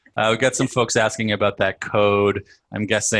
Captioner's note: laugh